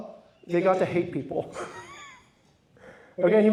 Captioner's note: laughs